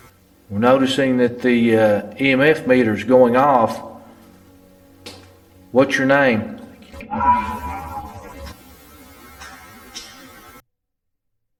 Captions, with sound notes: Noticing that the EMF meter's going off. What's your name? (buzzing)